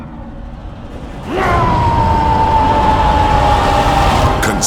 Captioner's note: angry Roar